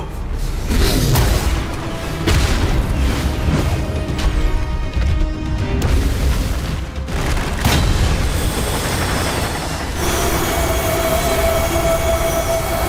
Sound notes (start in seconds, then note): none